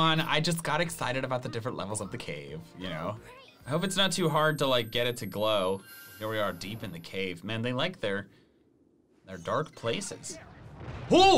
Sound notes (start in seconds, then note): none